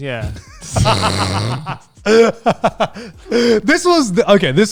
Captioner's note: burping, laughing